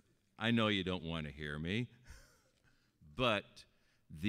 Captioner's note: chuckling